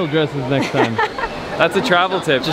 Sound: laughs

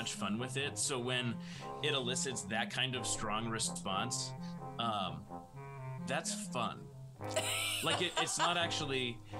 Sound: laughter

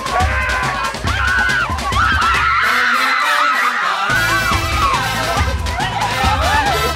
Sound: upbeat music; women cheer; women screaming

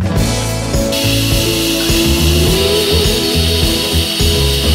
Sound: steam hisses; bright music

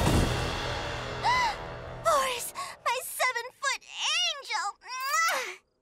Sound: gasping

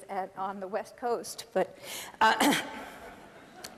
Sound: clears throat; laughter

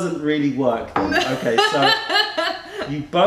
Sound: laughter

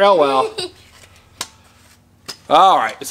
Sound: laughs

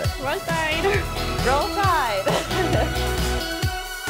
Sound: laughs

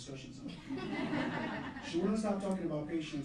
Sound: laughing

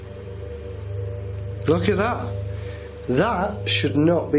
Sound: dark creepy music; loud beeping

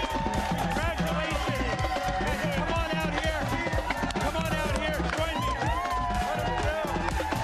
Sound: cheers and applause

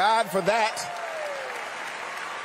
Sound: applause; cheering

